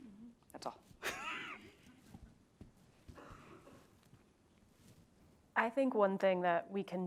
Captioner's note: laugh